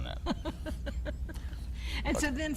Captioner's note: laughing